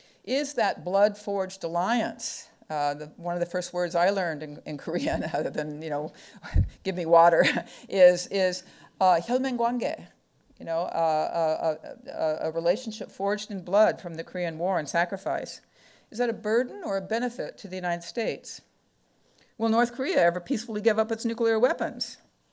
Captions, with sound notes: Is that blood forged alliance, one of the first words I learned in Korean out of the, you know, give me water is (speaking foreign language) you know, a relationship forged in blood from the Korean War and sacrifice. Is that a burden or benefit to the United States? Will North Korea ever peacefully give up its nuclear weapons?